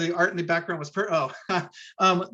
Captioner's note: gasps